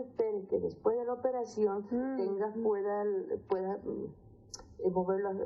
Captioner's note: woman speaking Spanish; speaking Spanish; woman speaking Spanish